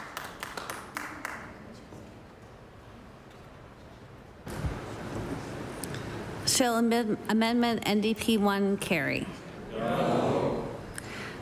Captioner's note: applause